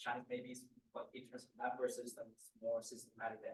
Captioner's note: student speaks faintly